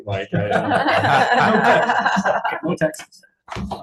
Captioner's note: all laughing